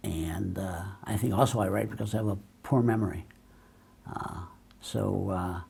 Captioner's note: none